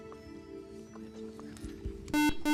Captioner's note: beep